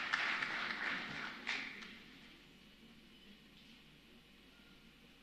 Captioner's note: applause